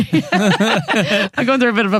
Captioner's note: laughing